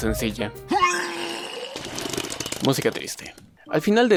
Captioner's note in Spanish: sonido de vómito